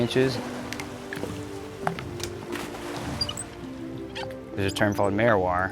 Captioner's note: steering wheel squeaking